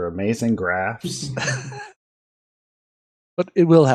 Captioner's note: laughter